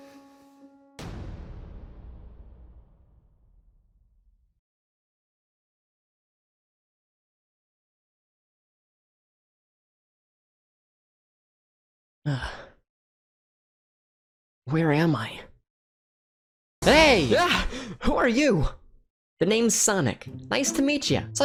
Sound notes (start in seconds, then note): 12.3 sighs